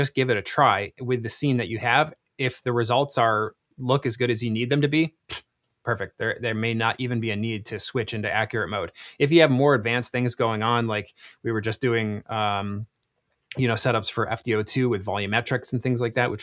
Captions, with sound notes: just give it a try with the scene that you have. If the results are look as good as you need them to be, (blowing raspberry) perfect. There may not even be a need to switch into accurate mode. If you have more advanced things going on, like we were just doing, you know, setups for FDO2 with volumetrics and things like that,